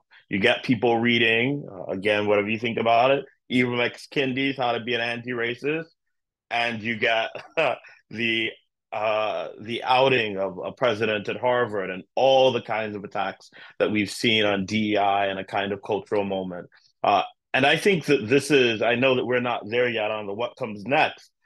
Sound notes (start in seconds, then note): 7.3 laugh